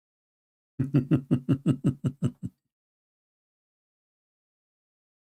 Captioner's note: Ketawa